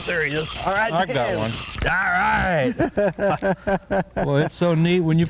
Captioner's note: laughter